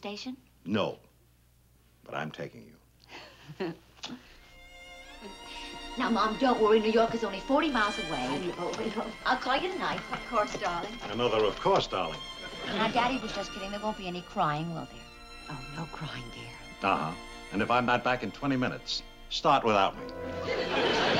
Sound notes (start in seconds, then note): 3.1 giggling